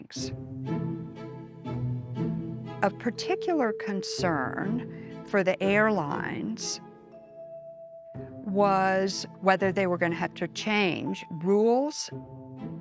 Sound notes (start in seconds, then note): none